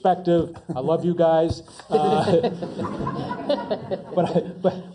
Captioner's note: laugh